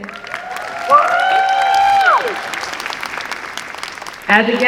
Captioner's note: applause and cheering